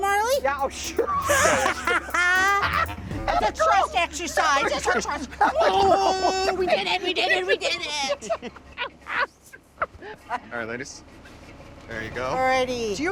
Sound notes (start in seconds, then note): 2.2 laughing; 9.4 chortling